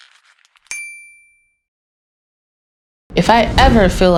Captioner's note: bell dings